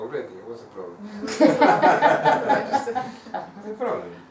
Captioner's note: hahaha